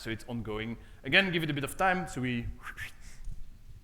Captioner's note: whistles